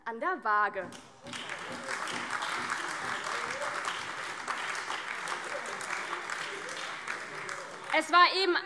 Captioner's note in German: Beifall AfD